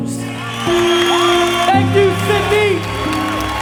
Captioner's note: audience cheers, applauds